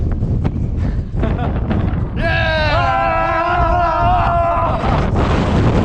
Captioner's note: both laughing and cheering